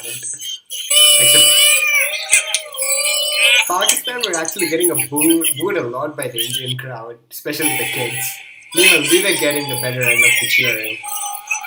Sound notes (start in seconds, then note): 0.9 boos for pakistan from some indian kids 😂